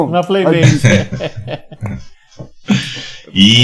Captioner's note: laughs